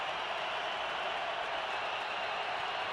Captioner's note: crowd cheering